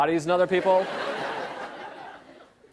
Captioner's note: laughter